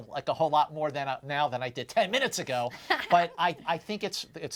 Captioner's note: chuckles